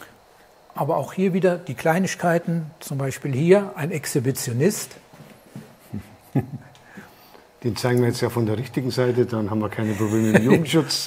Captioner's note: laughs; laughs